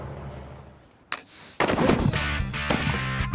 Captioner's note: boom; rock music